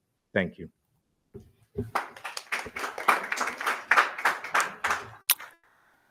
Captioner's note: attendees applauding